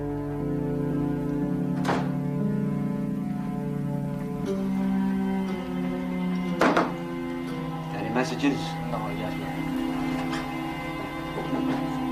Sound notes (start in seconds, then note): 2.4 suspenseful orchestral music; 6.6 knocking on desk